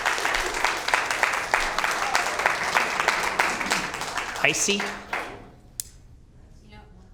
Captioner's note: applause